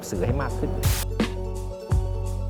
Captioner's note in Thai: เสียงโทรทัศน์